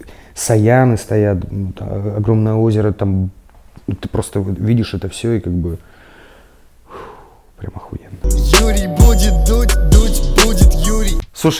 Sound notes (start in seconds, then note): 6.8 takes a deep breath and exhales; 8.2 title card music